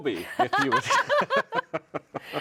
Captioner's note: laughing